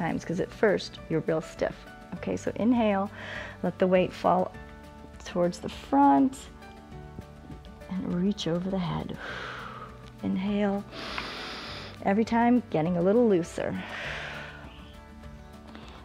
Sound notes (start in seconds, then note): 3.1 inhales; 9.2 exhales; 10.9 inhales; 13.8 exhales